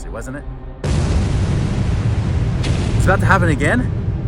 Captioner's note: explosion booms